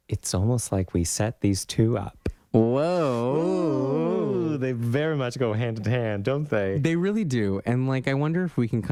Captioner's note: laugh